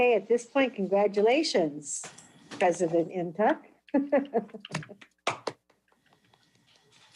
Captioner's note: laughs